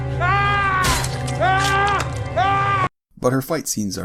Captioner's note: Meryn Trant screaming